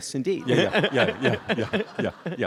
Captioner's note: audience laughs